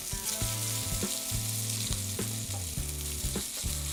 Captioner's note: beef sizzles